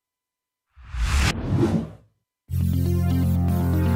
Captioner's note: logo whooshes; upbeat music